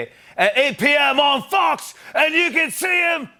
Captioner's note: British accent; normal voice